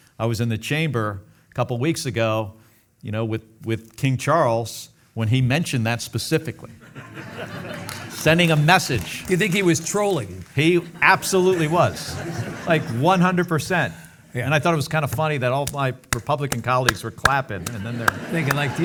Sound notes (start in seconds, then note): 6.8 audience laughing